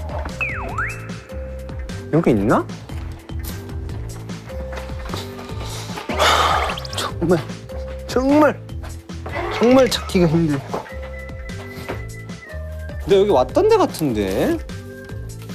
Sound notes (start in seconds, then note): 5.7 sighing